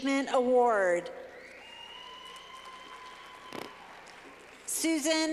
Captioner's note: clapping